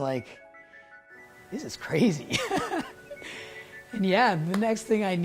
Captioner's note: laughs